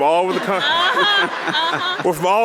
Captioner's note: audience laughing